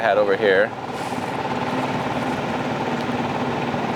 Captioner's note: engine rumbling